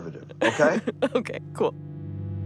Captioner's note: laughs